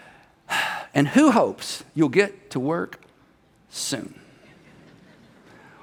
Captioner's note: sighs